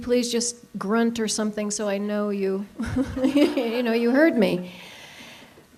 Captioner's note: laughs